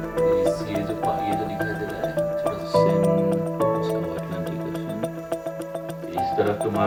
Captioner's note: speaking in foreign language